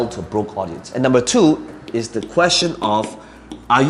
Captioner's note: tapping marker